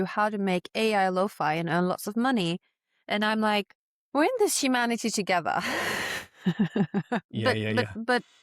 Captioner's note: laughs